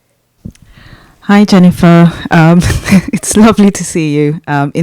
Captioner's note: chuckles